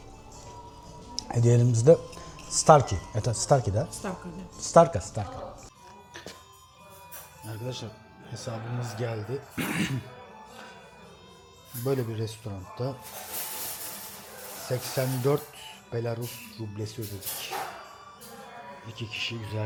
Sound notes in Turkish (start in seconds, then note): 9.5 öksürme; 9.5 boğazını temizler